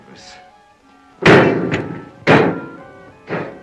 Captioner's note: suspenseful music playing; banging on door, trailing off